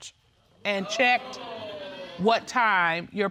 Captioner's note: audience exclaims